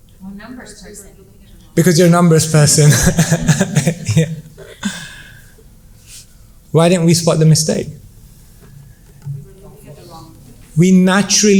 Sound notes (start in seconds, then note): 6.4 laughs